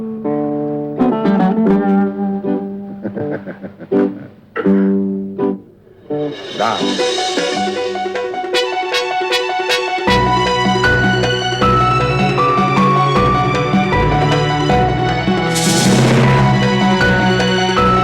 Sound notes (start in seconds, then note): 2.9 Zorbo laughing; 6.4 upbeat music